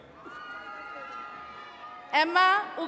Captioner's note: attendees cheering